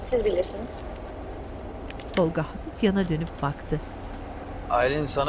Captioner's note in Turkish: Araba sesi